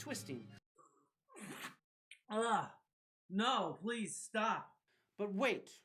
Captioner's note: spits